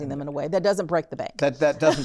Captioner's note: laughter